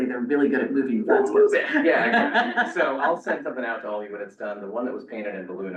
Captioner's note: laughs